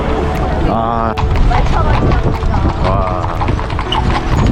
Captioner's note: A carriage passing by again